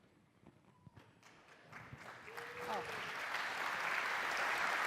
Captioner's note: applause